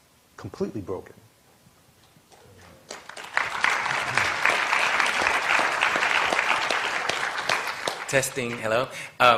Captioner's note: applause